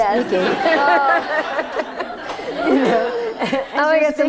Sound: laughter

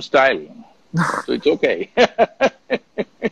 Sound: laughs

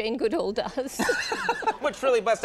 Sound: Conan laughs

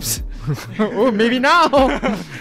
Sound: bunch of nervous laughters

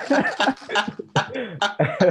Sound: laughter

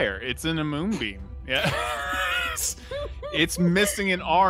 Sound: laughs; players laughing

